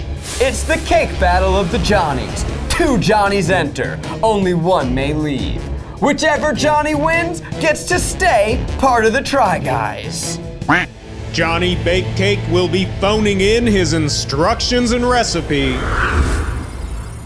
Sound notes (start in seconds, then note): 10.8 duck quacking